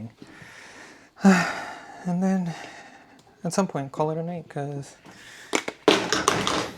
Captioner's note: sighs and gasps